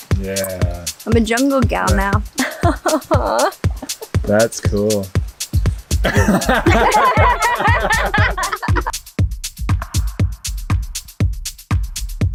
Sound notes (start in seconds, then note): 2.4 nervous laughs; 6.0 everyone laughs; 9.6 upbeat music